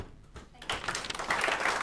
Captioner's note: applause